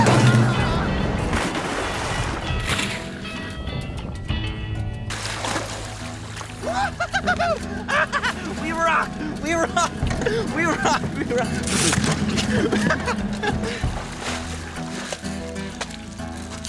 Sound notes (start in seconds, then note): 0.1 bright music; 6.7 laughs; 12.4 bright music